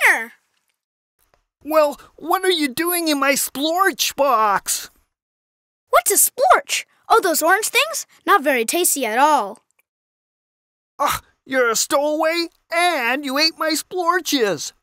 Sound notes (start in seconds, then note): 10.5 Glaff huffs